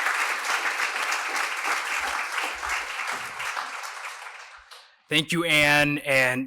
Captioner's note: applause